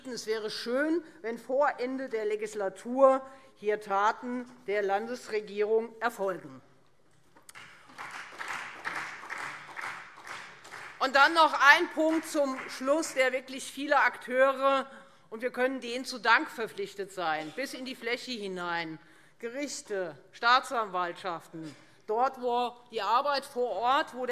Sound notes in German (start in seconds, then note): 7.5 Beifall Freie Demokraten